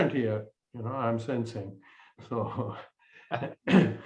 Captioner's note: laughter